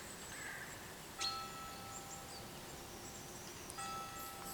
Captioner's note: bell tolling